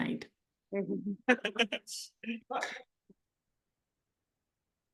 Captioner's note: chuckles